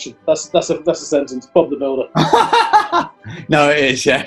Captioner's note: laughing